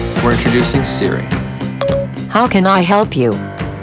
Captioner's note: phone rings